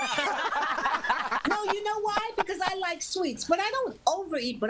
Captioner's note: laughter